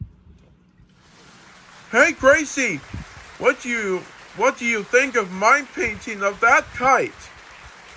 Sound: crowd applauding

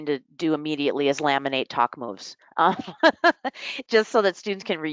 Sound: laughs

